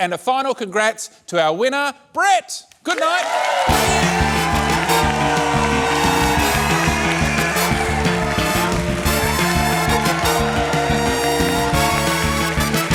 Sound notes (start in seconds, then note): 3.9 cheering, applause